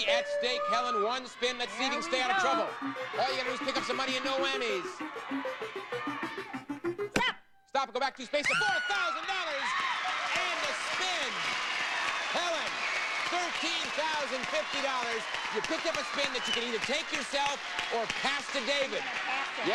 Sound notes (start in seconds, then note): 0.6 audience cheering; 10.0 audience applauding